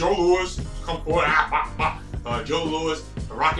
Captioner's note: fighting noises